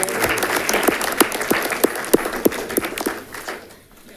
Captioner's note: audience clapping